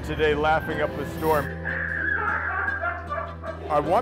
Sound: animatron laughing

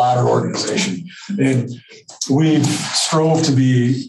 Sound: laughing

